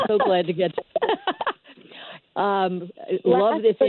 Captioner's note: laughs